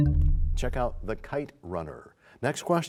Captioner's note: bell chimes, time expires